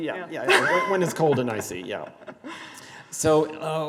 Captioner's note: laughs